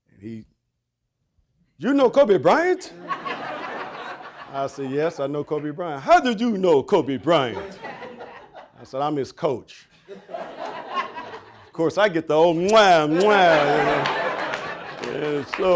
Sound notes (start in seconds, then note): 2.9 audience laughing; 10.1 audience laughing; 12.6 smooching; 14.4 audience laughing